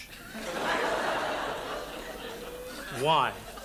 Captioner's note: audience laughs